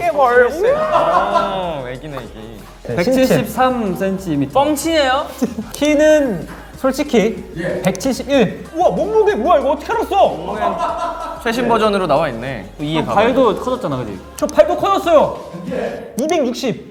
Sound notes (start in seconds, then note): 10.3 laughing